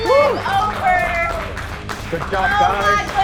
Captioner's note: cheering and clapping